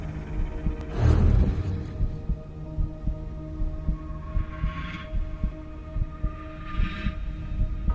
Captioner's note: eerie music; heart beating